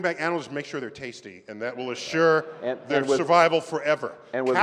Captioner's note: laughter